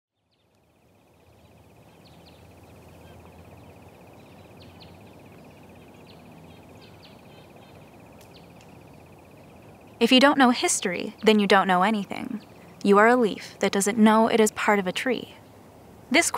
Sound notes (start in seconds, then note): 1.8 birds chirping